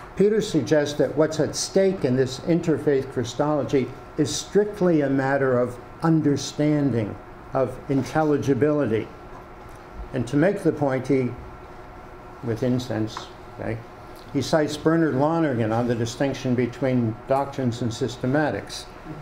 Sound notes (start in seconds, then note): none